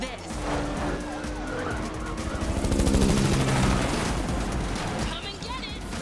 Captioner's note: sirens blaring